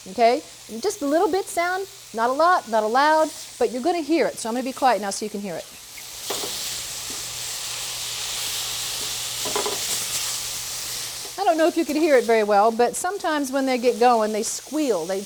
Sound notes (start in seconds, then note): 6.4 pan sizzles